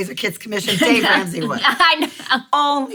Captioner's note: laughing